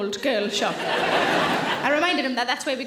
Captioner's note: audience laughing